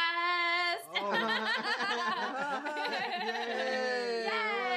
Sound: all laugh and cheer

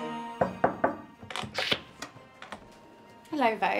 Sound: knock on door

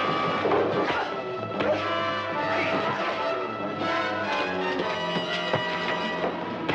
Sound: dramatic music; punches thudding; thug thuds

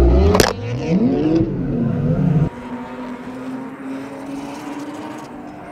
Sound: cars running in background

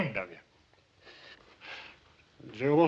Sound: weeping

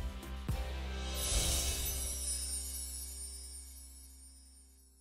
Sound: chime chiming

